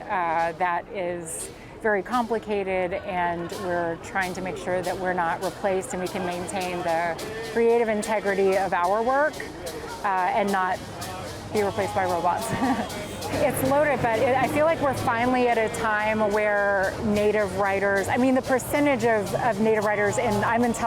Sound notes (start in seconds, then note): 12.4 chuckling